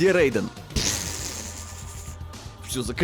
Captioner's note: pfffffffftttt